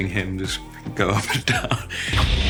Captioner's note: laughing